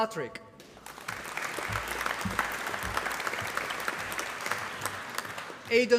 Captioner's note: applause